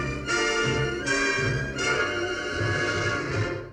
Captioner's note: none